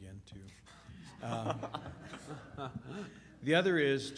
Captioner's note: laughter